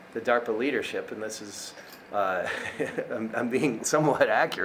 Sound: chuckling

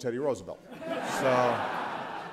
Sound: laughter

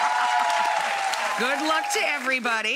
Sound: audience cheers

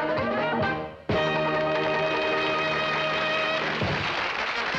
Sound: applause

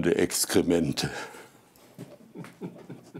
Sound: laughter

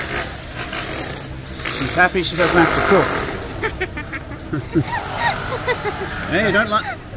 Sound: laughing

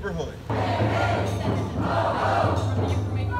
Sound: crowd

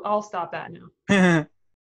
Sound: laughs

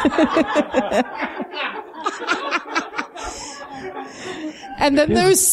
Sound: laughing

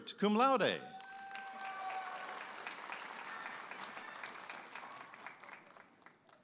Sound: audience applauding and cheering

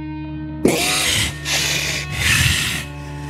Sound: gasps for air

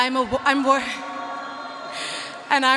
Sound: audience cheering

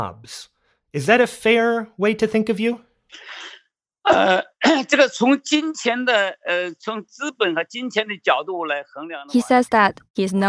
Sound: speaking Mandarin

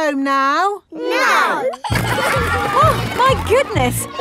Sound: giggling

